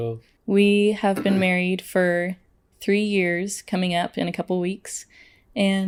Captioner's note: clears throat